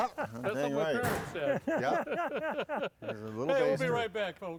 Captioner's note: all laughing loudly